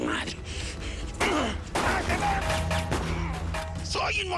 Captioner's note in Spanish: Disparos